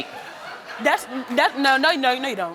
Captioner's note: audience laughing